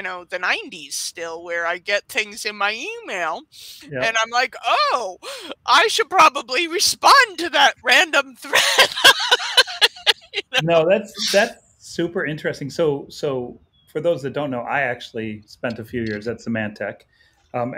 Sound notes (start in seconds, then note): 8.4 laughs